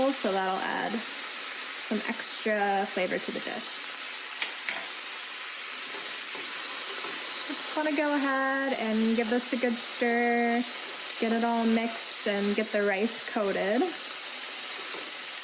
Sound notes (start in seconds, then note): 4.4 sizzling; 15.1 sizzling